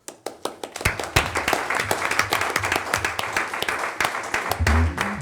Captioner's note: audience applauding